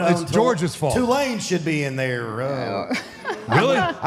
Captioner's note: Michelle laughs